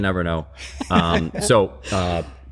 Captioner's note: laughter